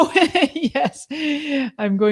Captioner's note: laughs